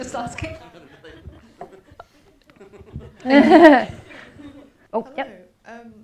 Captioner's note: laughter; indistinct chatter